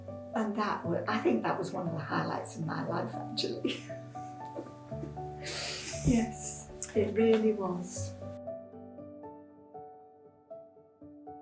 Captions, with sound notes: And I think that was one of the highlights of my life actually. (laughs) Yes, it really was. (calm piano music)